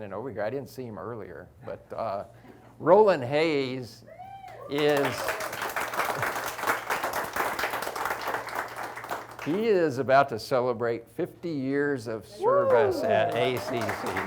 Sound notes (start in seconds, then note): 4.6 audience applauds